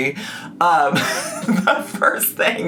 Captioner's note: laughs